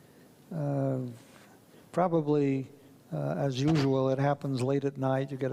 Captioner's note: none